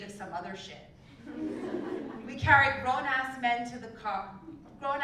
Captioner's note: laugh